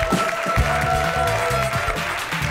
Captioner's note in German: Applaus